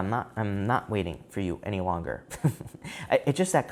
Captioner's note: chuckling